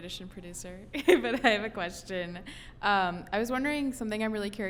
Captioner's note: laughing